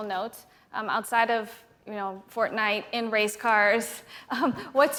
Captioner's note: chuckles